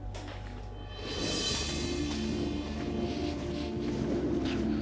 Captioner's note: wheels rolling